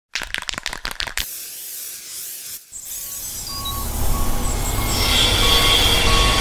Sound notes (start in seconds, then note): 0.1 spray paint can rattling; 0.1 spray paint spraying; 1.3 truck beeping